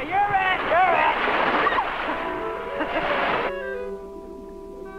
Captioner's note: laughing; Mango screaming; suspenseful instrumental music